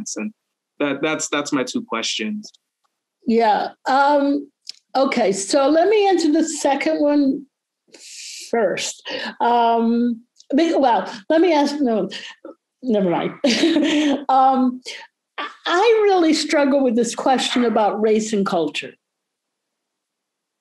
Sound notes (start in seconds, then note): 13.0 laughing